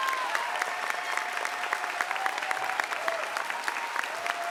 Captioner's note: applause